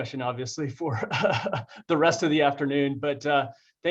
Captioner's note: laughs